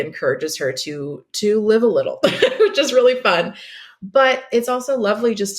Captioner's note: laughs